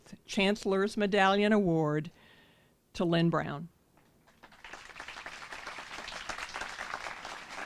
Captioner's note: applause